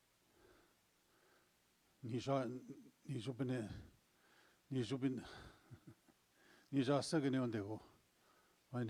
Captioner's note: speaking in Ojibwe